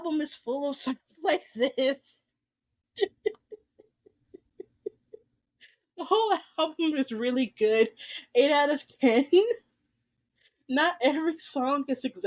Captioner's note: laughs